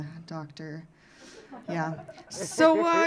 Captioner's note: audience laughing